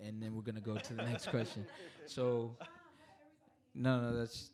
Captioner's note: all laughing